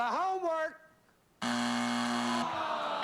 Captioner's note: buzzer